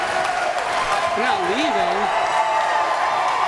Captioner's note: applause